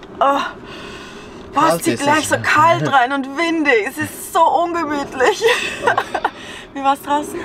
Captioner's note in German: Lachen